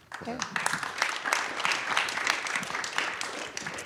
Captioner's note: applause